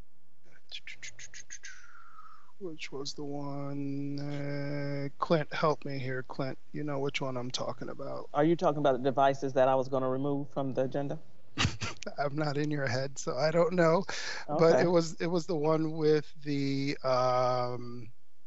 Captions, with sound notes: Which was the one? Clint help me here. Clint, you know which one I'm talking about? - Are you talking about the devices that I was gonna remove from the agenda? - (laughs) I'm not in your head. So I don't know. - Okay. - But it was the one with the contract with Cisco,